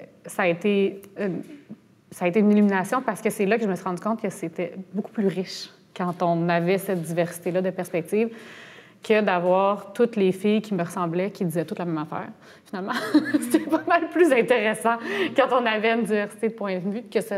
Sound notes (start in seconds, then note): 13.0 laughs